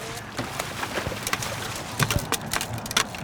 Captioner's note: fish splashing; fish thrashing